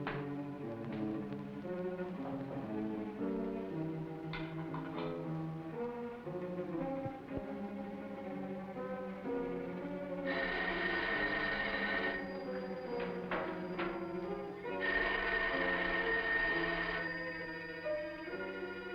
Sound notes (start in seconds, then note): 10.2 phone ringing